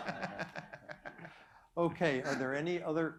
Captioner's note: laughter